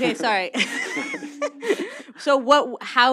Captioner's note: laughs